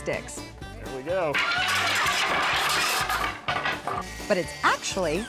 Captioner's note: clattering